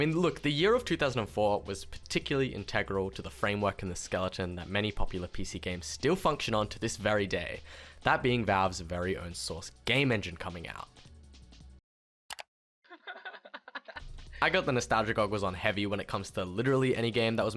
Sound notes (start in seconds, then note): 12.3 mouse click